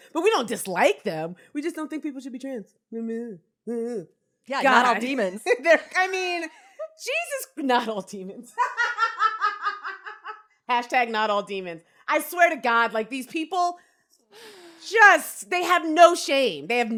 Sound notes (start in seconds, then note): 8.4 cackles